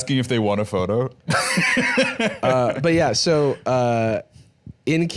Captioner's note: laughs